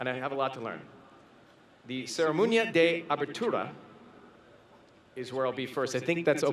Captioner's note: foreign Language